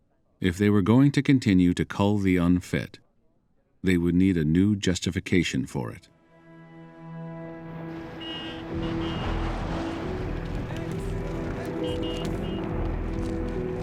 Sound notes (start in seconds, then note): 7.9 car horns honking